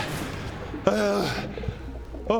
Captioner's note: hrgh